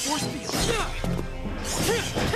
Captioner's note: grunting